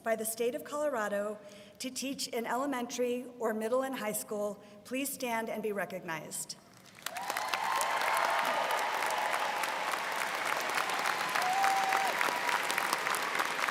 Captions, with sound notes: by the state of Colorado to teach in elementary or middle and high school, please stand and be recognized. (students cheering and applauding)